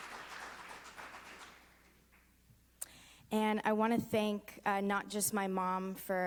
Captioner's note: applause